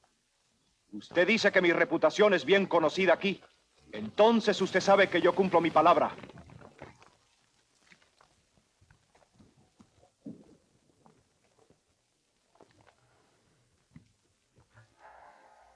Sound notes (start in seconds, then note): 1.0 Ramirez speaks Spanish